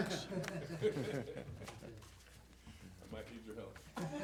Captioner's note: laughs